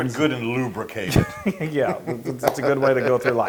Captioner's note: laugh